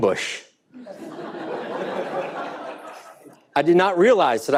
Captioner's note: audience laughing